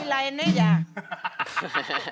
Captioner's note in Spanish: Ríe